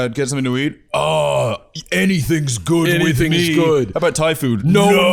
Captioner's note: deep voice